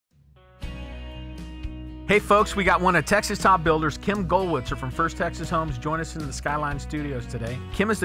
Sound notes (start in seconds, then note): 1.2 mellow country music; 2.4 voiceover